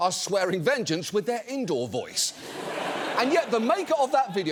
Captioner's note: audience laughs